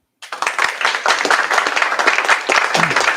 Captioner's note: applause